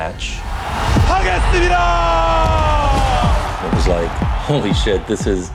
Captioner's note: speaks Korean